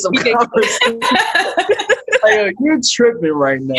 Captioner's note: laughing